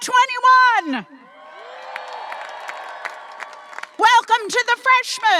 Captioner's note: audience applauding and cheering